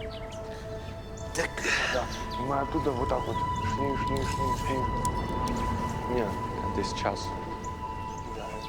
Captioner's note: chattering